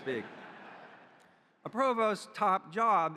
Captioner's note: audience chuckles